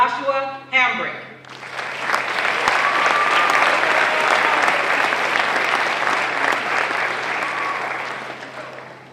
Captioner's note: applause